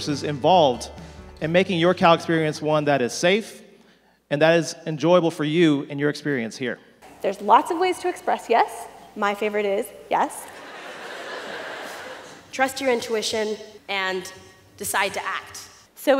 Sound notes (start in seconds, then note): 10.5 audience laughs